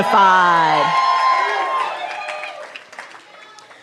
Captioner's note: cheering